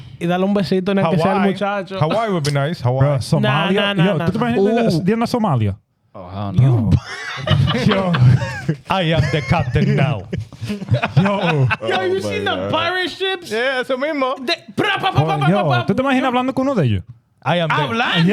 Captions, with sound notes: Hawaii would be nice. No, no, no, no. (Speaking In Foreign Language) Oh, hell no. (Laughing) I am the captain now. Yo, you seen the pirate ships? Yeah, some Imo. (Speaking In Foreign Language) I am the captain.